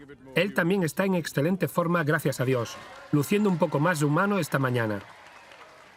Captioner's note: crowd cheering